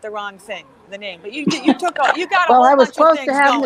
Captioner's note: laughs